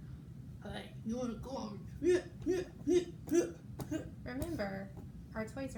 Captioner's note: fighting noises